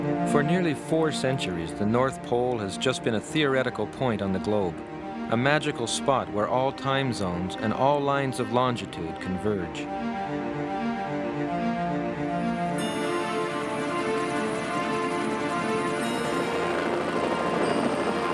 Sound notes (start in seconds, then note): 11.0 anticipatory orchestral music; 13.5 helicopter blades thumping